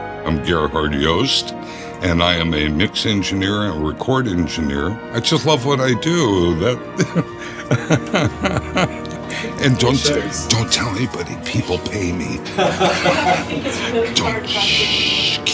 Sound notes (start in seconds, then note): 6.7 laughing